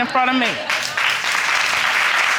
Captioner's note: audience applauding